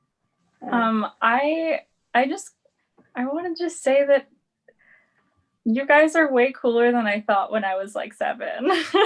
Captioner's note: laughs